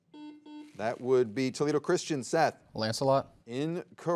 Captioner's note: soft beeping